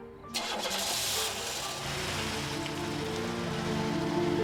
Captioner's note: car engine starts